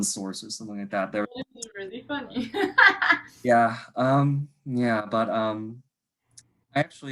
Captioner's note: laughs